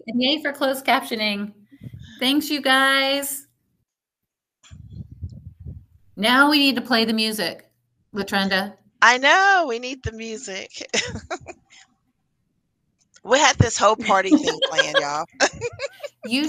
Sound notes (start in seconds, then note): 10.7 laughing